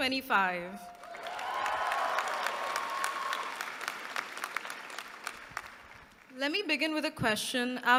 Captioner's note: applause